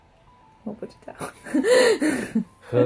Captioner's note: laughs....You helped pick it